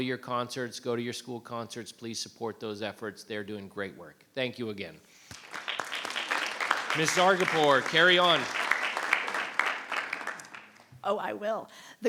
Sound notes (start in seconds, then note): 5.2 audience clapping